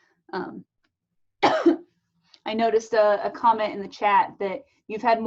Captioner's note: coughs